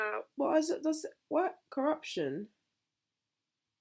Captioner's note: stammering